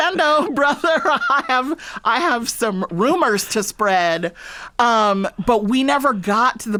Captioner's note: laughter